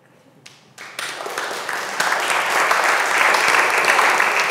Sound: audience applause

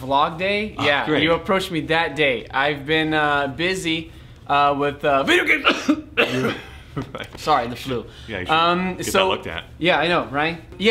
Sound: cough

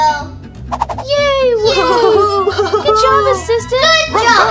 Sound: everyone cheers

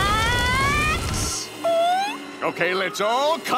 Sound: squealing

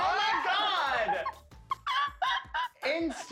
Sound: laughing

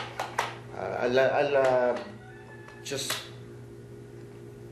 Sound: stutters

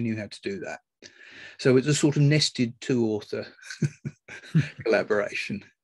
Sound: laughs

